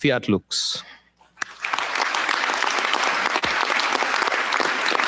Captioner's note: applause